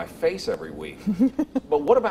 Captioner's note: chuckling